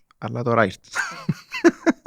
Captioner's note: he laughs